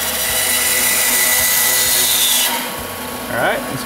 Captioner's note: saw whirring